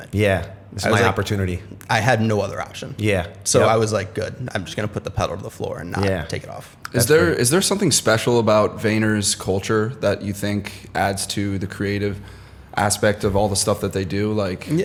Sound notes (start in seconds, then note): none